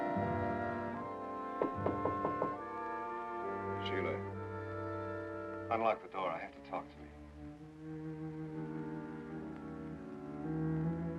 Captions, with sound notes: (door knocking) - Sheila, unlock the door, I have to talk to you.